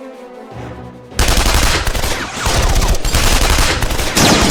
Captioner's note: dramatic orchestral music; guns blasting